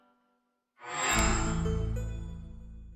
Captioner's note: microsoft sound